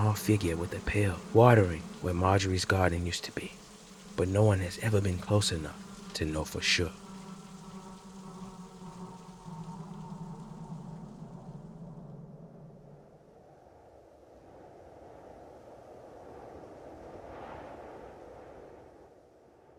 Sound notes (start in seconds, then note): 9.8 rain falls; 14.5 wind howls